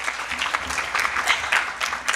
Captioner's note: applause